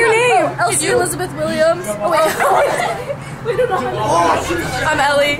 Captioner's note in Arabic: يضحك